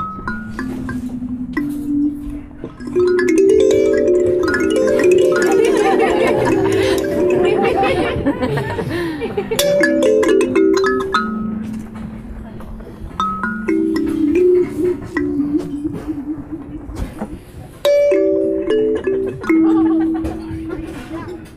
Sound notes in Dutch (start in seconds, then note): 7.7 gelach